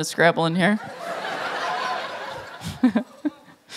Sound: laughter

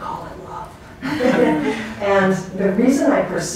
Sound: class laughing

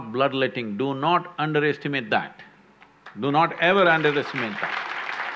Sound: applause

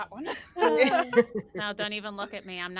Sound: all laughing

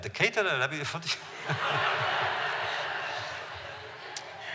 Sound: laughter

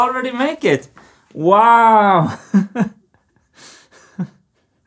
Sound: chuckles

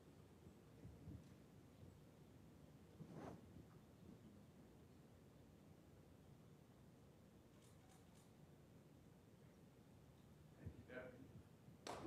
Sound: applause

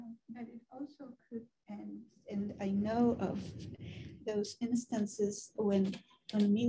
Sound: woman's Voice

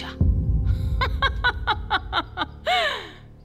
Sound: Sara laughter

